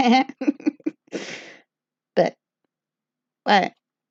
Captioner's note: laughs